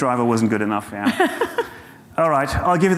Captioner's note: laughing